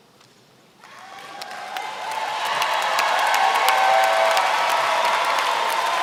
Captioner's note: applause